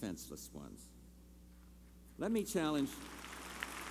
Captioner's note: applause